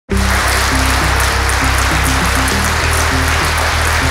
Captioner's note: audience applause